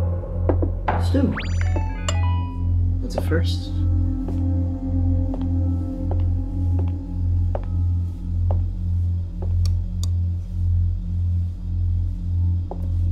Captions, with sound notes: Stew. -: That's a first. (shoes walking)